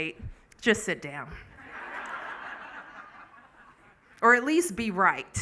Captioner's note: laughing